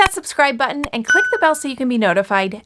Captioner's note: bell dinging